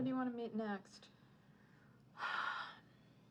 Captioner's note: sighs